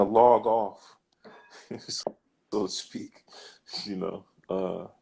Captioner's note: laughs